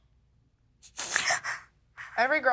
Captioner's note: sobbing